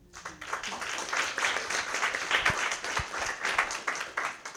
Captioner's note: applause